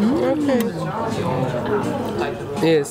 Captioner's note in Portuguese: ambiência de restaurante